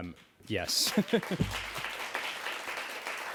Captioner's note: applause